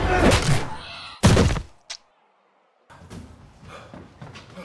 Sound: zombie head splats

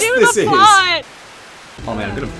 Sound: Static

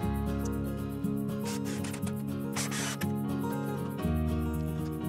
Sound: drill whirs

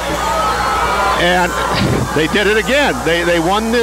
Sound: laughs

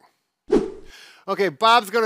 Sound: whooshing sound

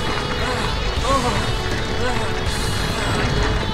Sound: grunting; rock music

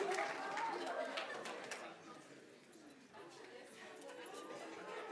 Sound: audience chattering

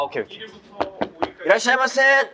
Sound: knock Knock

